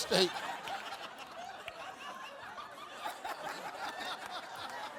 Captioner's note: audience laughing